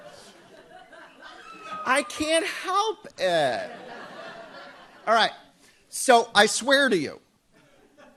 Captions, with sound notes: I can't help it. (audience laughs) Alright, so I swear to you,